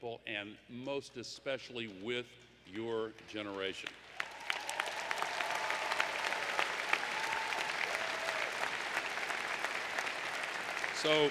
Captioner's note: applause